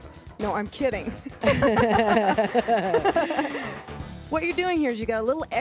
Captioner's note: both laugh